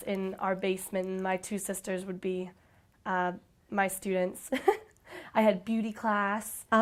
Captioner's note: chuckles